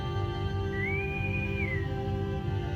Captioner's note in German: Interkomm pfeift